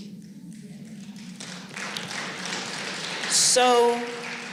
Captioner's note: applause